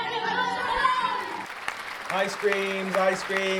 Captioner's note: clapping noise